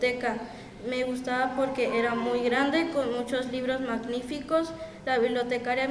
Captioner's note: speaking in Spanish continues